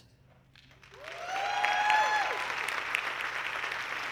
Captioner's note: audience clapping